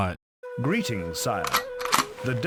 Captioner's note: gun arming